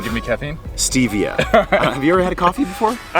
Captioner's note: laughs